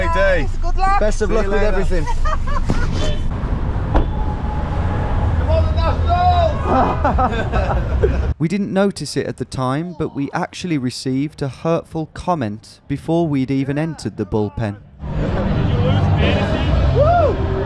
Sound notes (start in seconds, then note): 1.8 driver laughing; 6.9 car horn honks